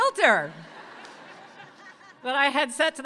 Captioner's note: audience laughs